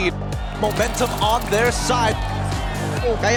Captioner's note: commentator 1, in English; crowd cheering, applauding